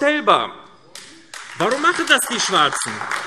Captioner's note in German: Beifall AfD